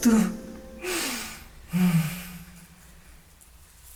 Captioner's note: sighs